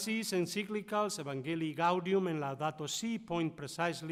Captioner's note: speaking foreign language